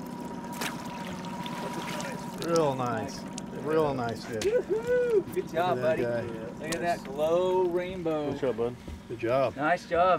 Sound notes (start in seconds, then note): 0.0 trolling motor humming; 1.7 fish splashing